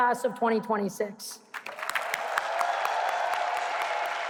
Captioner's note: applause